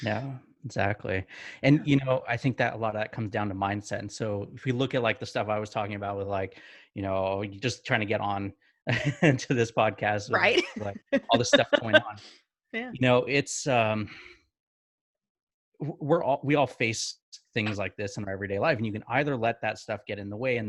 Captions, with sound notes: - Yeah, exactly. I think that a lot of that comes down to mindset. And so if we look at like the stuff I was talking about with just trying to get on (laughs) to this podcast, like all this stuff going on. (laughing) We all face things like this in everyday life. And you can either let that stuff get in the way